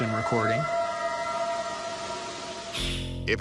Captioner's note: eerie howl